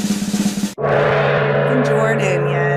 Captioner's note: drum roll; gong